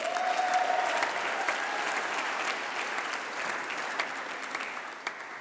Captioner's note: applause; applause